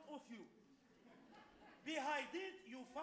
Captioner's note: audience laughs